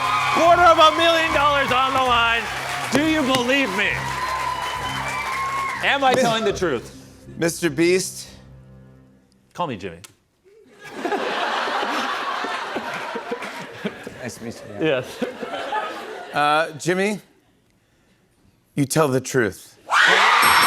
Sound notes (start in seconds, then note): 10.5 laughter; 19.9 cheers and applause